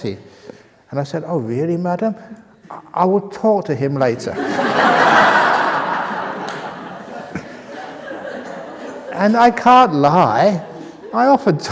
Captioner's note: laughter